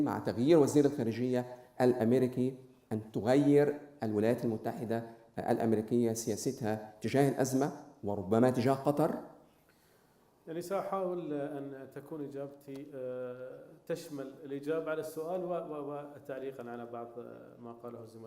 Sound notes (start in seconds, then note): 10.3 speaking in foreign language